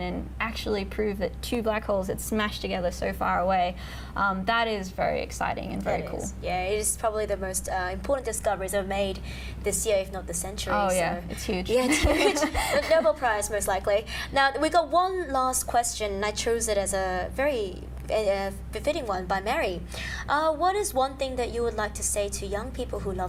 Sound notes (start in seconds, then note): 11.8 both laughing